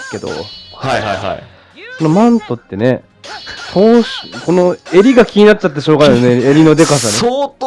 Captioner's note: laughs